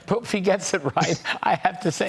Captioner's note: laughter